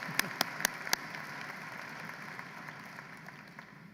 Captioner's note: applause